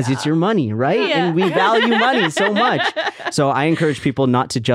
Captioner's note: laughing